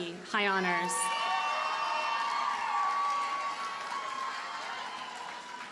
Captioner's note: audience cheers and applauds